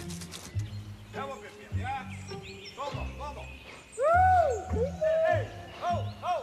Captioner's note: men conversing and yelling